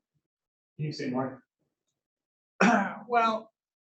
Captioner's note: clears throat